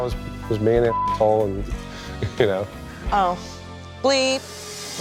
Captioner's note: beep